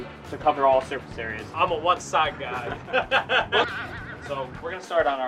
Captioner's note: laughs